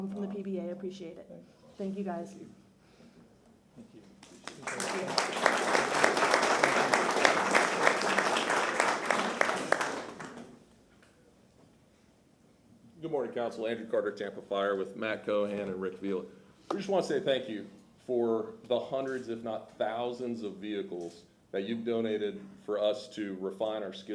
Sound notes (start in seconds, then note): 7.6 applause